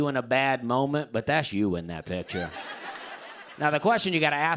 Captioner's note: laughter